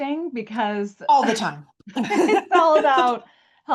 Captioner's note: laughs